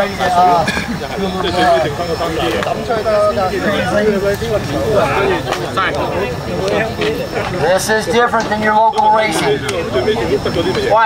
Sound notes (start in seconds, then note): 2.7 crowd chatter